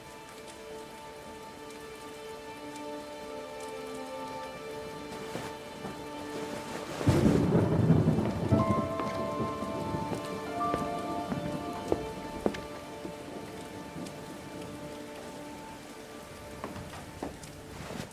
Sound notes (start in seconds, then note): 3.0 dramatic orchestral music continues; 7.2 thunder rumbling